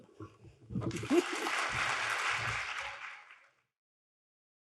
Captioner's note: audience applauds